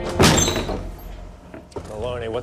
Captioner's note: door slamming